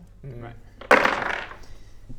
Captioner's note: sad crash